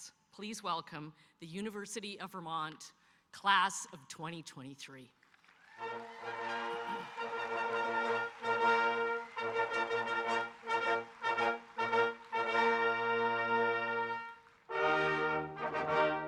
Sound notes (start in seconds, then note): 5.4 audience applauding; 5.8 stately music